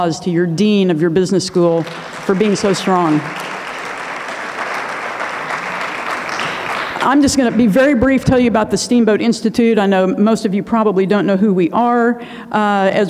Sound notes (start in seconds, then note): 1.8 audience clapping